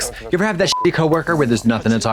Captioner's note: beep